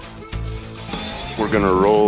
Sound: boat engine idling

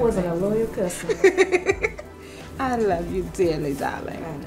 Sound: laughs

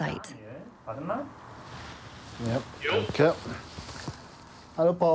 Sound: speaking German

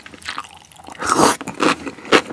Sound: slurp

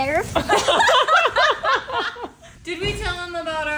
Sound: laugh

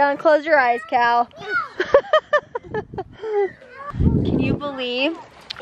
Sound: laughing

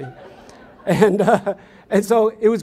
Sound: audience laughs

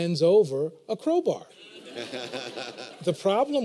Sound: laughter

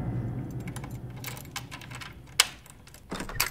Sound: sound of keys in the door; door unlocks, opens

